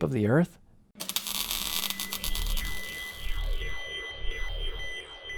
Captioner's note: time machine whirs